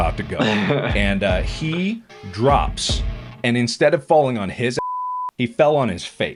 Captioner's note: beep